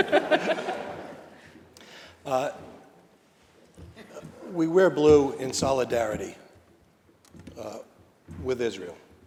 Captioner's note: laughter